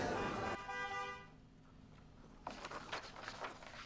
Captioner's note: car honking